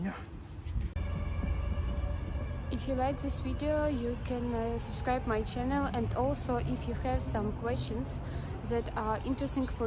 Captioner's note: air-raid alert sound